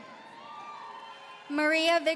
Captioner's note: audience cheering